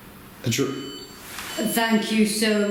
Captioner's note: device beeps